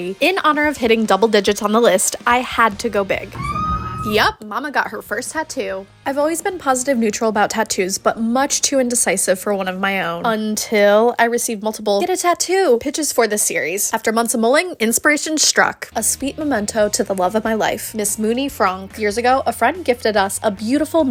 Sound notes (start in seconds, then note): 3.3 screams